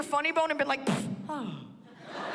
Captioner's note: mimics thudding; laughter